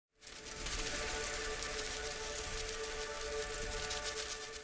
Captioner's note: butterflies Fluttering